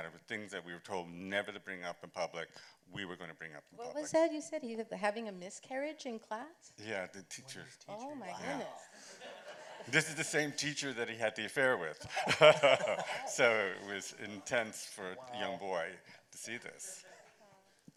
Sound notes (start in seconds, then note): 8.9 laughter; 12.0 chuckles